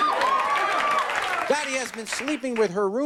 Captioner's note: audience cheering